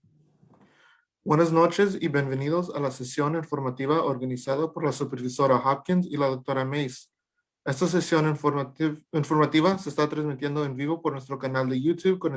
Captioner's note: talking in Spanish